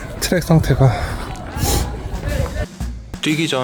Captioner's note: sigh